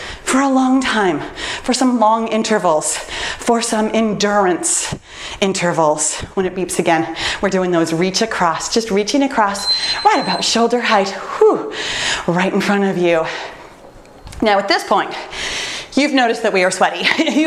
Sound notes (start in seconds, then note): 9.4 timer beeps